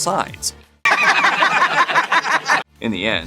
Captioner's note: The Ray Liotta laugh